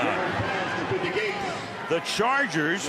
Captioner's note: pa announcement